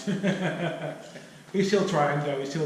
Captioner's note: chuckling